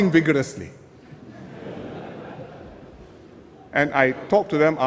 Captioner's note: laughter